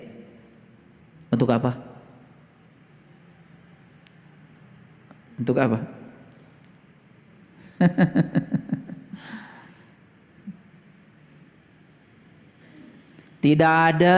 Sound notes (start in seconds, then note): 7.8 laughs